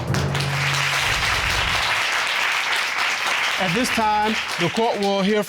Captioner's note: audience applauding